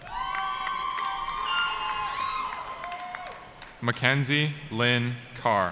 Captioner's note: cheering